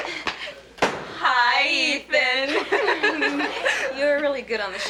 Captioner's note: laughs